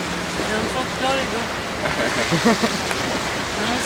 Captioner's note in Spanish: risas